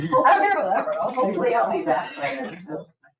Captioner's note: people laughing; people chattering